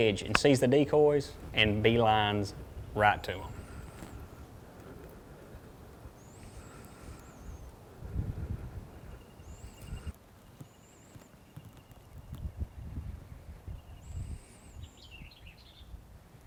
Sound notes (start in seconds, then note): 10.0 birds chirping